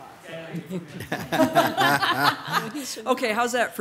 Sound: all laughs

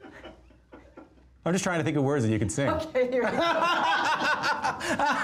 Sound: laughter

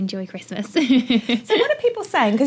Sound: laugh

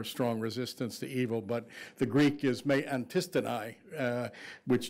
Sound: speaking foreign language

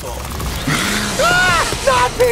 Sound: hissing; screaming

